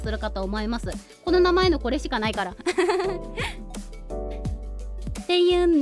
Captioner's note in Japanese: 笑い